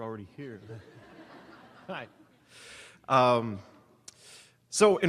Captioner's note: audience laughing